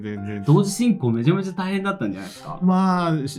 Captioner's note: laughs